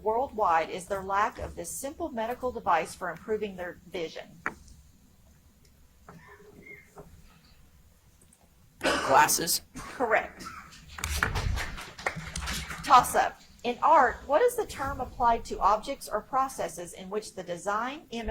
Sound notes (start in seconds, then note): 6.3 audience member coughs; 11.0 audience applauds